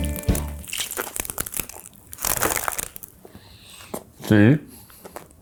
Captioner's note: crunching